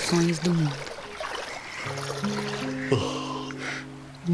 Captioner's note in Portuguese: Borbulhar de água